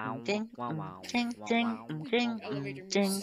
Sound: laughs

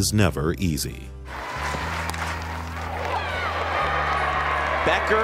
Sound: crowd cheering

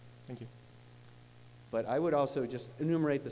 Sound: voiceover

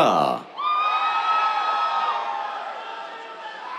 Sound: cheers

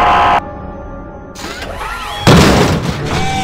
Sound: whirring, Crash; whir

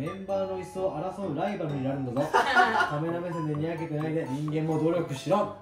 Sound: suddenly change from Japanese to English

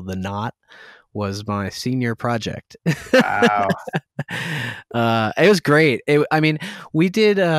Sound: laughter

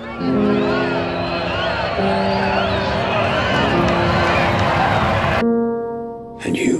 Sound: cheering

